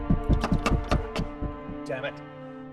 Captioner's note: car stalls